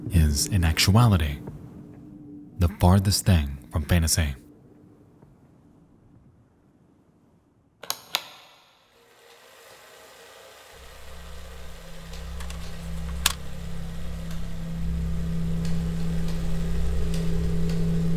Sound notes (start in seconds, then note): 7.8 projector clicks; 9.3 film reel rattles; 14.9 foreboding music